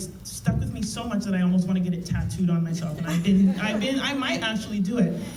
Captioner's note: laughter